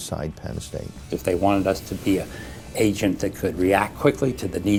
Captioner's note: voiceover